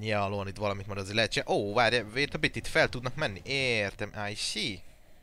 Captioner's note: speaking perfect English